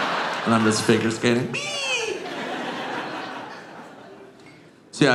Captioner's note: audience laughing